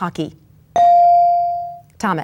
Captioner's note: bell dings